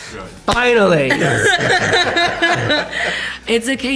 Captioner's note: laughter